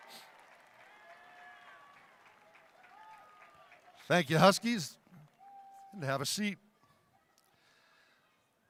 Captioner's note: cheering